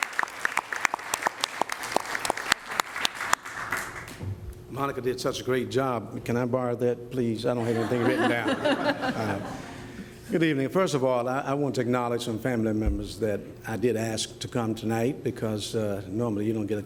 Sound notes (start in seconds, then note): 3.3 applause; 10.9 laughter